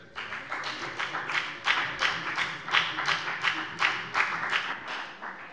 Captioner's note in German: Beifall bei der FDP